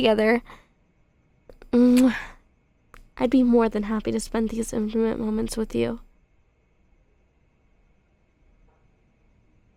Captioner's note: soft kiss